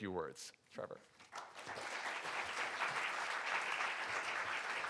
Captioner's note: audience applauding